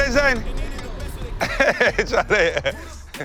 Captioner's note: laughing